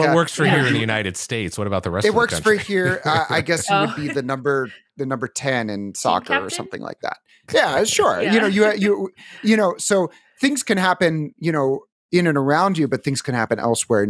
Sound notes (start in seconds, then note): 2.0 laughs; 9.2 laughs